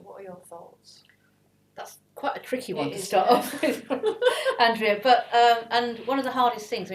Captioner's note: laugh